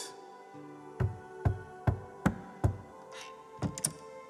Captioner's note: quiet knocking